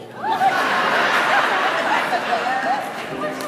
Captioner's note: laughter